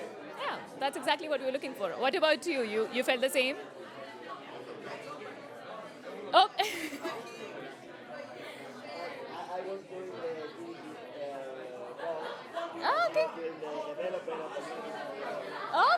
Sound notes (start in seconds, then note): 4.0 chatter; 6.4 laughs